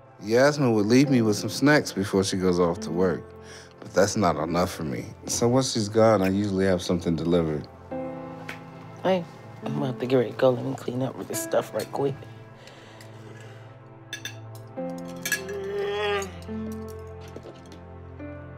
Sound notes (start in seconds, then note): 15.4 yawning